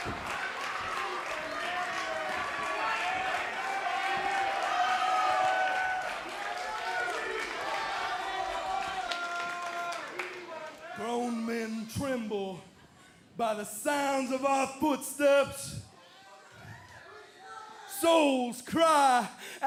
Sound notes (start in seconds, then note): 4.9 cheers and applause